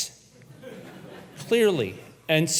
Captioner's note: audience laughs